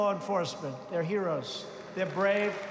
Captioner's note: applause